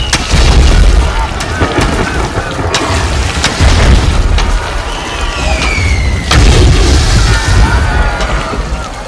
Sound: screaming

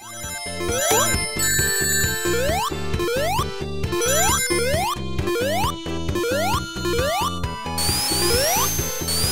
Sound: gameplay Audio

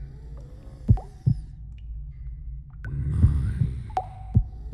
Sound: pounding heartbeat

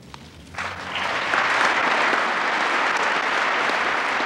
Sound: applause

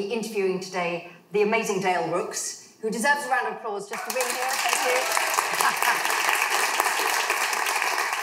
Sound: applause

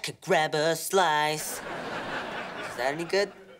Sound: laughing

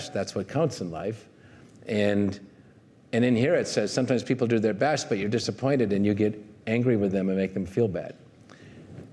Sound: none

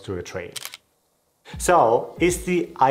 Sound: camera shutters click

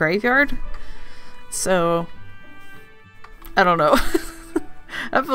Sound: laughs

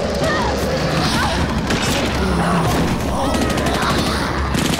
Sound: whimpering; guns blasting

